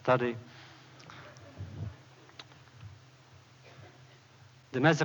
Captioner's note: laughter